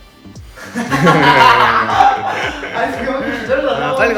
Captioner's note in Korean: 웃음